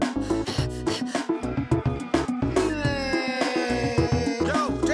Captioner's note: upbeat retro music; panting